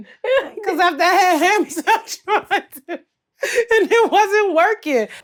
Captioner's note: laughs